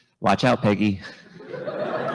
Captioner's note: laughter; chuckles